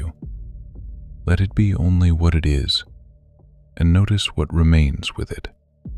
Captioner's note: soft voice